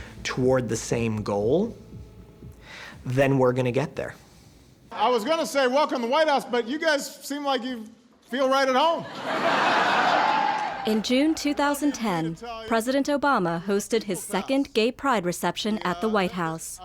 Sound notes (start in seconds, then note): 8.9 laughter